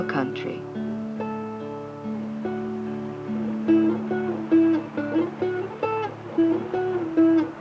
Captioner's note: water splashing; appalachian dulcimer music